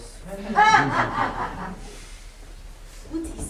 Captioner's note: laughter